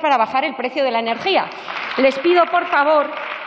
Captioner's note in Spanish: Aplausos